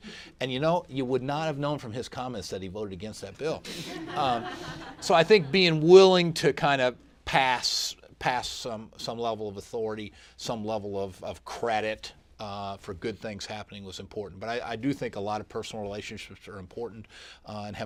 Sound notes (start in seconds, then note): 3.7 laughter